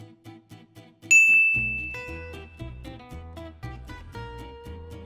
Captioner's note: playful orchestral music; bell rings